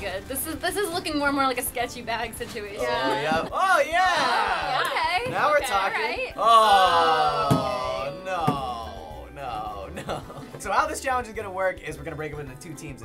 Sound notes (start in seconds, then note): 5.7 all groaning